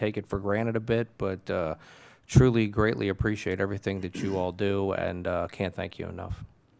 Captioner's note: clears throat